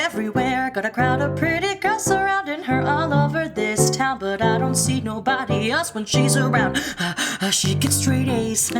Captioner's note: gasp; clap clap clap